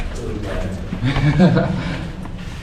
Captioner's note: laughs